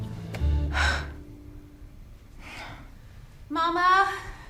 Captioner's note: sighs; footsteps